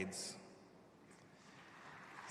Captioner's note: applause